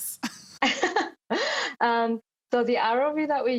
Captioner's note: both laughing